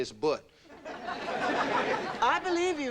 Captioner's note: audience laughing